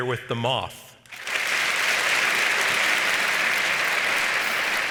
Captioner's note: audience applauds